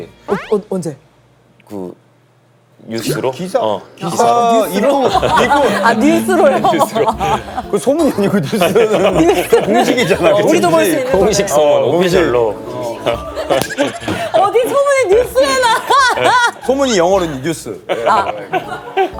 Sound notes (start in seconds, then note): 8.0 haha